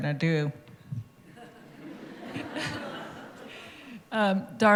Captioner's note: laughter